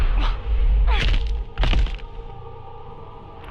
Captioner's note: in game: bones cracking